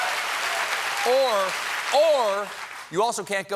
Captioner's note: applause